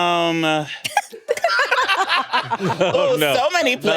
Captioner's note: everyone laughs